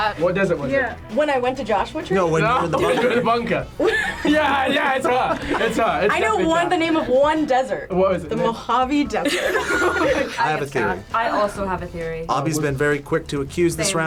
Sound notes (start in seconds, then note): 3.8 laughs; 9.2 group laughs